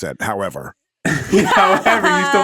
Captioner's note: everyone laughing